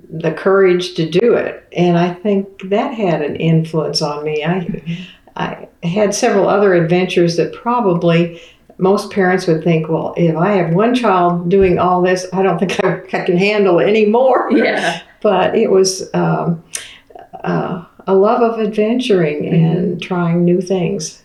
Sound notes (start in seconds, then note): 14.8 laughter